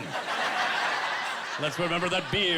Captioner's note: laughing